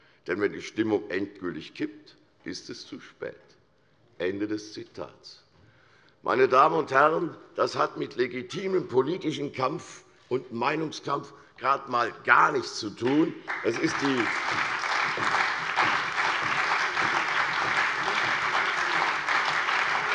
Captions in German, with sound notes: denn wenn die Stimmung endgültig kippt, ist es zu spät! Meine Damen und Herren, das hat mit legitimem politischen Meinungskampf gerade einmal gar nichts zu tun. [Allgemeiner Beifall]